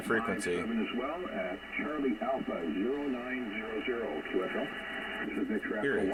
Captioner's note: caller on radio